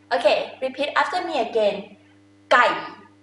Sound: talking in foreign language

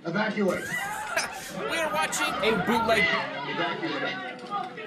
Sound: passengers panicking

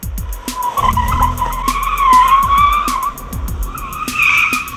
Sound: tires squealing

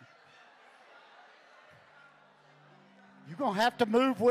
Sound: congregation chattering

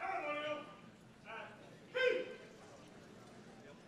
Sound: marine shouting orders

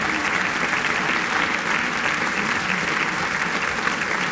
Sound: applause

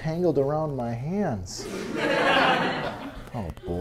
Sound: laughter

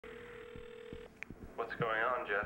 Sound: phone ringing

